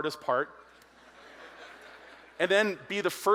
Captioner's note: audience laughs